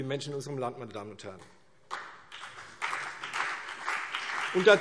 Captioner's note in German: Beifall CDU und vereinzelt BÜNDNIS 90/DIE GRÜNEN